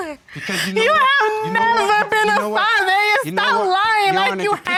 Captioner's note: sobbing